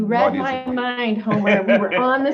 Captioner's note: laughs